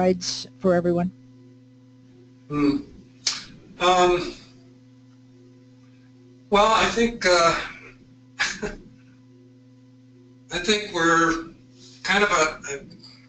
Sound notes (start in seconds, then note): 8.4 laugh